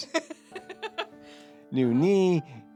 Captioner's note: laughing